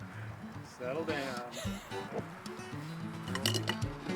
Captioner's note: laughs